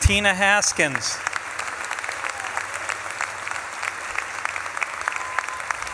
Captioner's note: audience claps and cheers